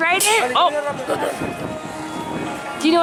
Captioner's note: sneezes